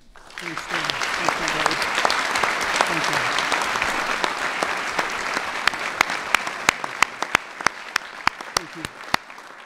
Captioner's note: applause